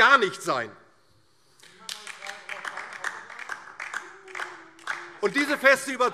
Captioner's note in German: Beifall DIE LINKE - Zurufe AfD